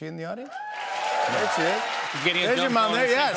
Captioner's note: cheers and applause